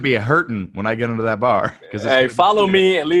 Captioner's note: murmurs